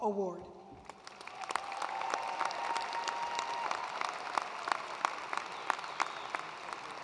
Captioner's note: attendees cheering and applauding